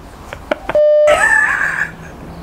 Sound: beeping noise; laughing

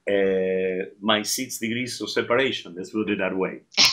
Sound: laughing

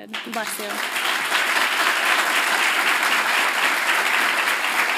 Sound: audience applauds loudly

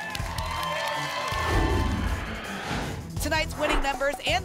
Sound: applause

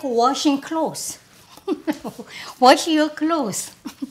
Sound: laughs

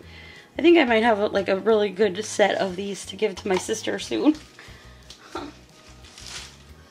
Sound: laughing

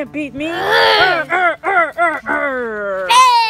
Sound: voiceover

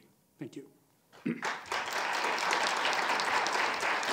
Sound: applause

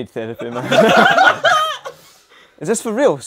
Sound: people laughing

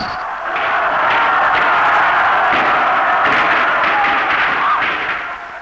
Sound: gunshots, crowd roaring

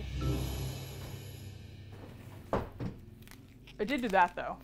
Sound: thud

